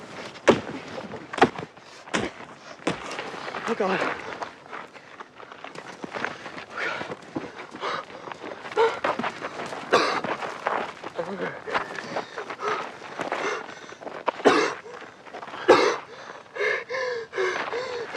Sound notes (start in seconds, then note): 9.8 whimpering and coughing; 13.3 panting and coughing; 15.6 wheezing